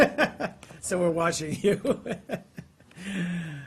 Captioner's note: laughter